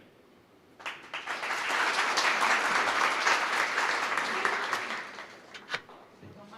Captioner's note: applause